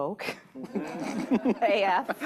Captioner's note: laughter